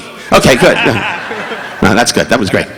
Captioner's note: audience laughing